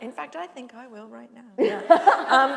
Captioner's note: laughter